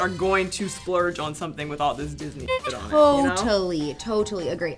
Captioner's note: horn